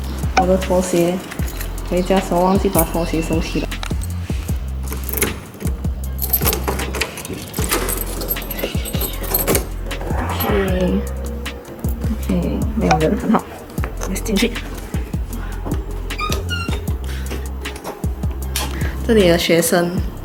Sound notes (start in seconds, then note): 6.0 ka-cha; 15.9 crack